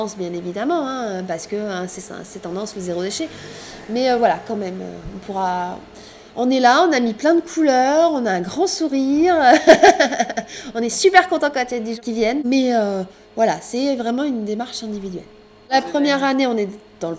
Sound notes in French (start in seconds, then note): 9.5 rires